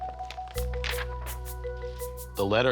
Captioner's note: plastic sheet flaps